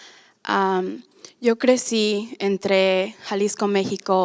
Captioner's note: speaking spanish